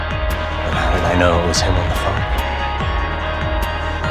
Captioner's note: voiceover